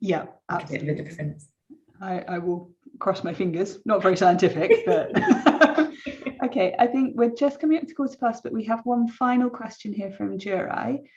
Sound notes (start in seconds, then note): 4.1 chuckles